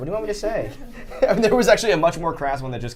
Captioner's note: laughter